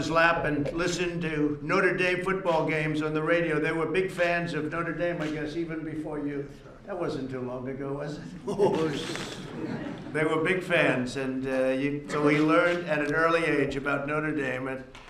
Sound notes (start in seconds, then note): 8.2 laughter